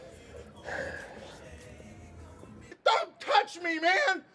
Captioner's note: Jack sighing